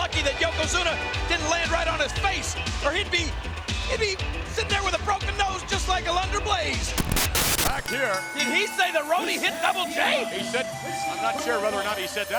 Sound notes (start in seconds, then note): 7.7 bell rings